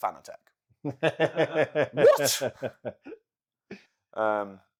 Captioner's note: laughing